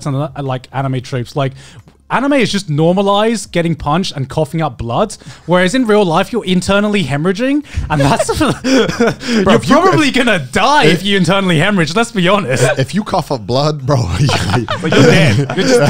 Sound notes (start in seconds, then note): 7.8 laughing; 7.9 panting; 15.7 laughing